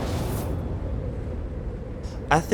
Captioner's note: music intensifies and stops; wind blowing